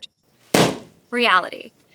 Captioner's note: balloon pops